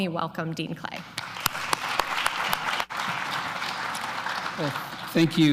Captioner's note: applause